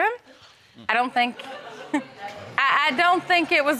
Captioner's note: audience laughs